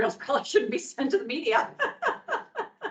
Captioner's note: laughs